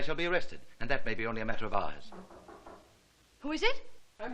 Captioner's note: knock|ng